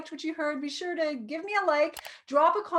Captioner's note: light clicking